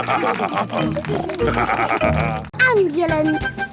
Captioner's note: laughing; snorting